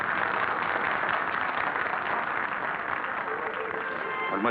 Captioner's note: people applauding